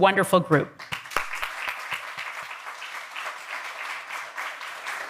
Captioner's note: all applauding